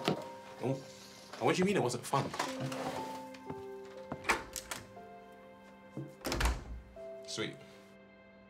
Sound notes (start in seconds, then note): 4.2 door clattering